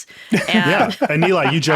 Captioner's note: laughing